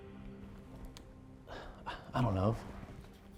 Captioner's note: sighs